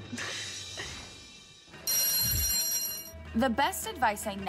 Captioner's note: school bell rings